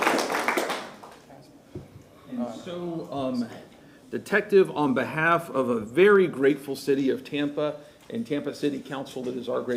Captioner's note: applause